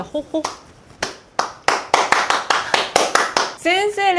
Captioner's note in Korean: 박수갈채